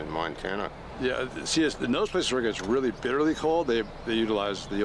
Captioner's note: none